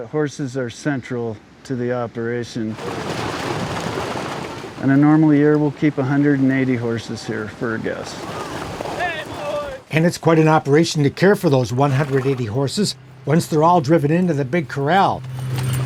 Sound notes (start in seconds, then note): 2.7 water splashing; 3.1 hooves thumping